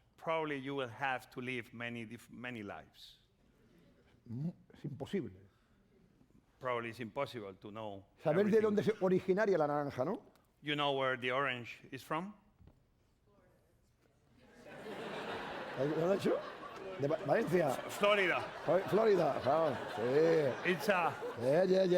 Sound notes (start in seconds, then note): 5.4 speaking spanish; 8.8 speaking spanish; 15.0 laughter; 16.9 speaking spanish